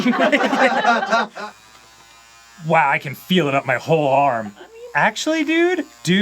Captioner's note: crew laughing; vibrator still loud, but less like heavy machinery